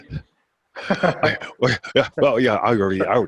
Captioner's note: laughing